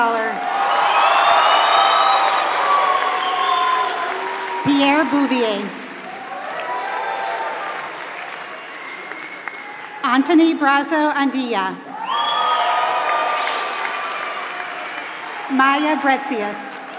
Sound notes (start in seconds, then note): 0.0 applause